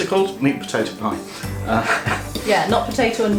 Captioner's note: laughs